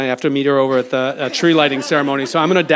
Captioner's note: audience laughs